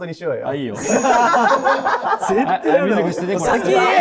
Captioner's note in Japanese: 一同：笑い